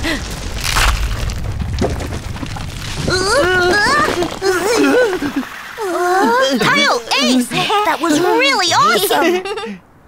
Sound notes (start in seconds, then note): 0.0 building cracks; 3.2 all groan, whimper